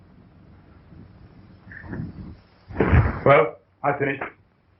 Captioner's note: pounding